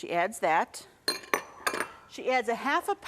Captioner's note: bowl clinking